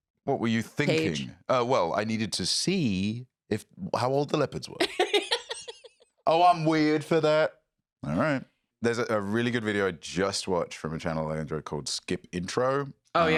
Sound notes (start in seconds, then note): 4.8 laughs